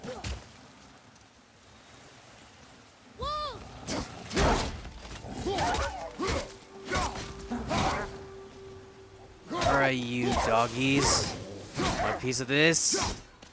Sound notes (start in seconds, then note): none